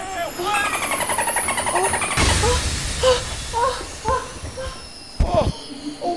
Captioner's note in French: son d'éclaboussement et gémissements